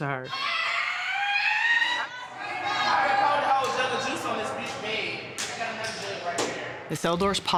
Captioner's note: yelling